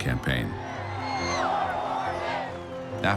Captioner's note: chanting